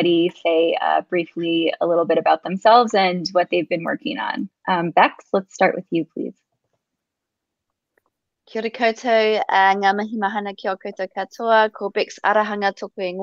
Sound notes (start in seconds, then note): 9.0 speaks indigenous language